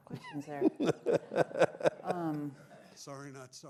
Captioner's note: laughter